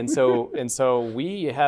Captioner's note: laughter